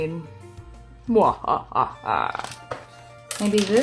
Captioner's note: evil laugh